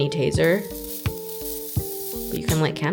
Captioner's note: faint buzzing noise